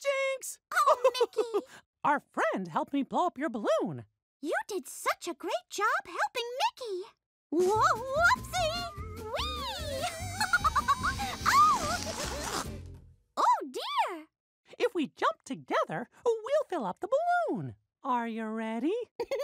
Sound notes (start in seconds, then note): 0.4 Mickey laughs; 9.8 laughs